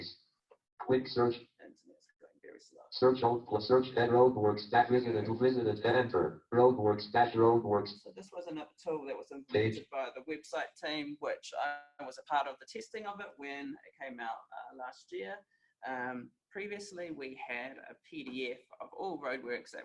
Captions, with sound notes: And this is going very slow. (JAWS speaking disjointedly) So this wasn't up totally, it was invented by the website team, which I was a part of the testing of it when it came out last year. And previously we had a PDF of all roadworks